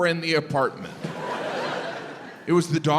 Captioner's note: audience laughs